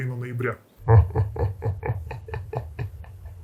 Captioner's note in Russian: демонический смех